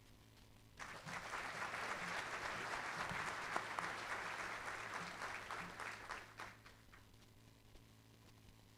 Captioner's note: applause